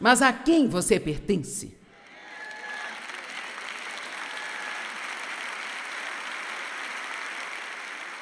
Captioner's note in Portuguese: audiência aplaude